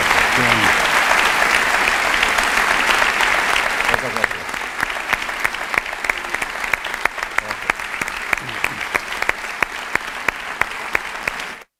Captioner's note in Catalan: aplaudiments